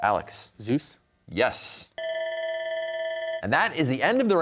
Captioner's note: bell ringing